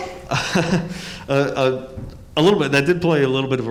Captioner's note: laughs